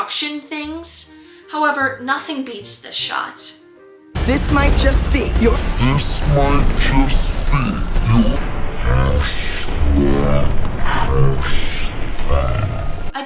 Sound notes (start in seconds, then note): 4.1 explosions and distorted talking